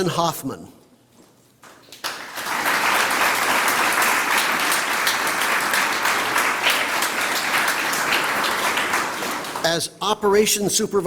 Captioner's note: applause